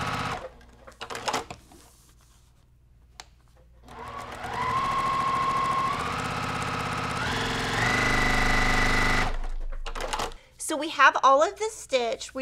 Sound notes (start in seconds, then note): 3.8 sewing machine whirring